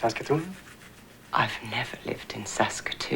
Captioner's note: none